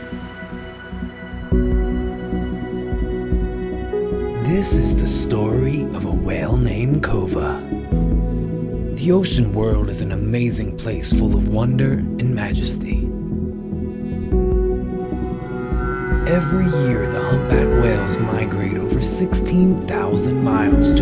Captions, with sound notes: This is the story of a whale named Kova. The ocean world is an amazing place full of wonder and majesty. [Whale noise] Every year the humpback whales migrate over 16,000 miles